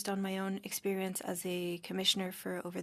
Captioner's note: speaking French